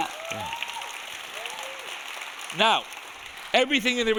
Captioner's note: audience applauding; audience cheering